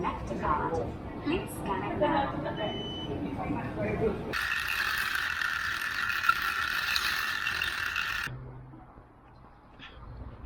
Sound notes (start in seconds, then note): 2.6 beep; 4.4 cart clattering across pavement